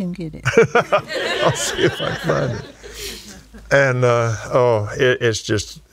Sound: laughs

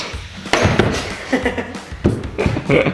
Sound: thump; laughing

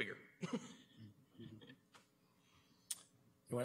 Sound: chuckles

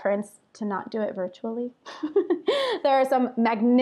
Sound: laughs

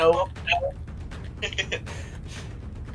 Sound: laughs

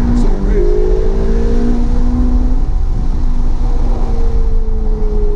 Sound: engine roaring

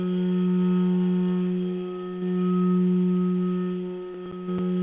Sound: vibrating tone

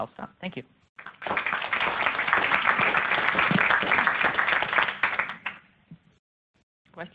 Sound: applause

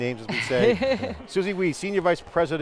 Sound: laughter

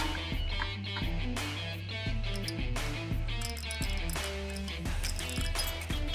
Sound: rock music playing; wrench clanking

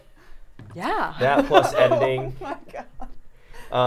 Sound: laughing

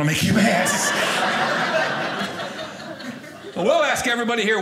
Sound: audience laughing

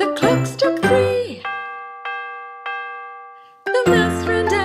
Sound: bell dings

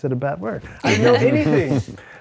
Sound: all chuckle

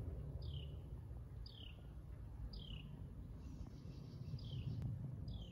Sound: birds chirping and airplane flying overhead

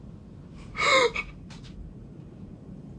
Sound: sobs

